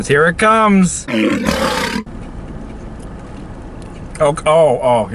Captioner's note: lion roars